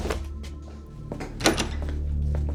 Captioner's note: door opens